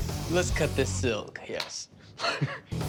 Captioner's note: laughs